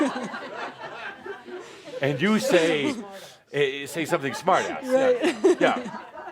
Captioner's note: laughter